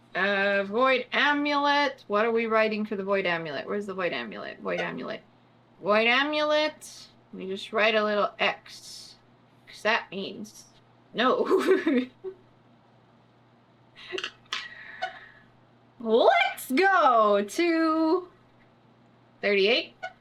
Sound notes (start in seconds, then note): 11.2 laughs